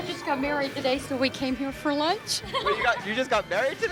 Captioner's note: laughs